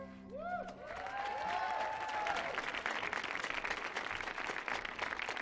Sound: audience applauding

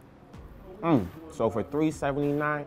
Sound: mellow hiphop music; grunts

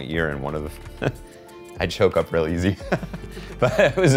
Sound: laughs

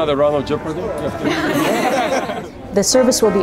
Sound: laughter

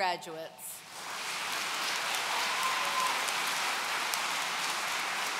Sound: audience cheering

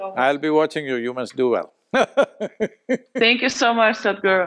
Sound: laughs

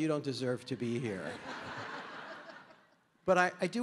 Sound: audience laughing

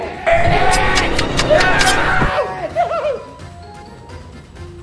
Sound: Lime screams

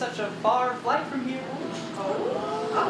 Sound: audience ooh’s

